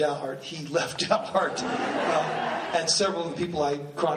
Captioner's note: laughing; laughs